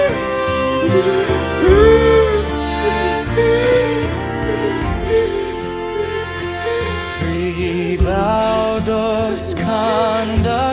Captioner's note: jadeando